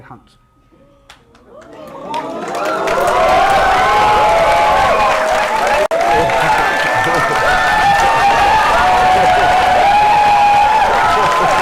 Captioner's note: cheering